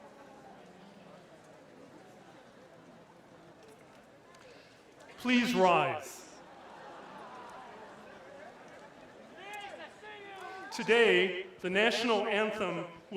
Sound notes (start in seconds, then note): 5.3 cheers and applause